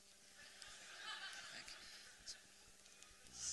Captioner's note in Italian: risate; ancora risate